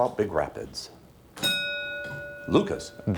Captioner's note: ding